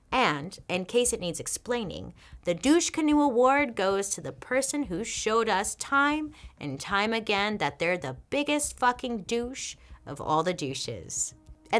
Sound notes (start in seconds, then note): none